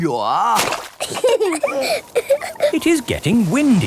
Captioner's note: both laughing